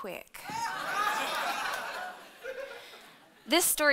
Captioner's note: audience laughing